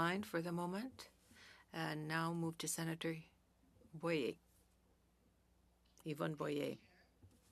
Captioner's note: speaking French